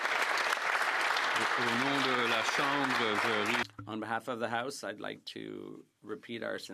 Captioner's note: applause